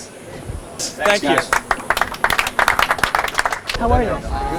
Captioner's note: audience applause